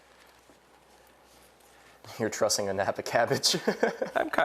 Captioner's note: laughing